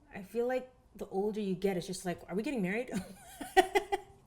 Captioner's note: laughs